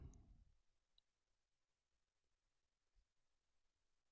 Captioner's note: silence